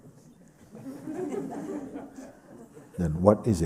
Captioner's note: laughter